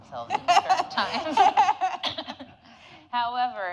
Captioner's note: audience laughing